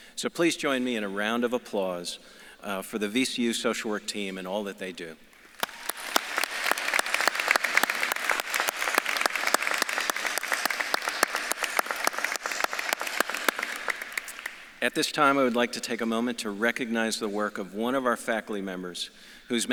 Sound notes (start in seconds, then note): 5.4 audience claps and cheers